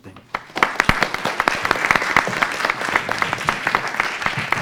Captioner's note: audience applauding